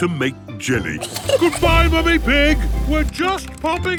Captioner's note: giggles